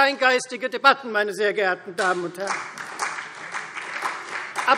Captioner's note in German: Beifall Freie Demokraten und CDU